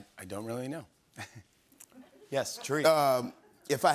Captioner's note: chuckles